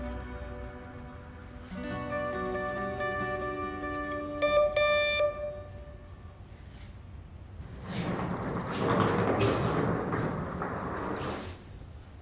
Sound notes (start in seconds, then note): 4.4 doorbell ringing